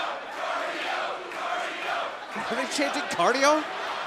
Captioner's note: fans chanting